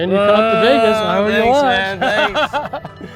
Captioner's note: laughs